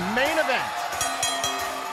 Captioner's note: bell ringing